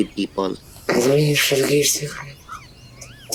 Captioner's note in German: auf Schweizerdeutsch